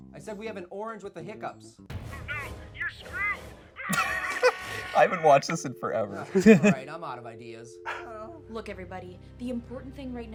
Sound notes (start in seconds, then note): 2.4 voice On Phone; 3.9 voice screaming